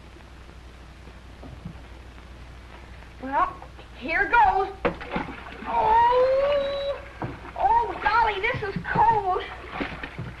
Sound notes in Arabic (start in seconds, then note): 4.8 رش